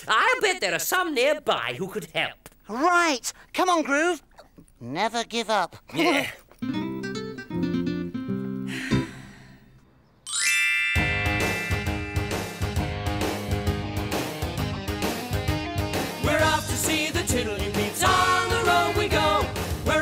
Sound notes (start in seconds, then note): 8.6 sighs; 10.2 chimes; 11.4 rock music